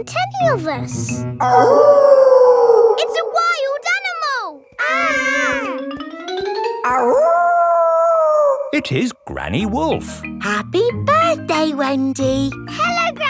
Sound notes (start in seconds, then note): 1.4 wolf howling loudly; 4.7 kids yelling; 6.9 howling